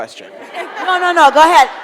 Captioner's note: audience laughs